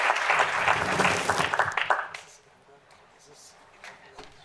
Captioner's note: applause